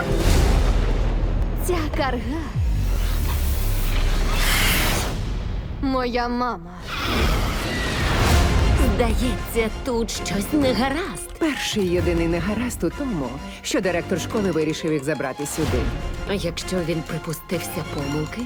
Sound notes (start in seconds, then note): 2.3 music gains suspense; 2.9 screeches; 6.8 shrieks; 6.8 screams